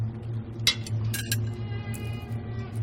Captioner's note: clinking sound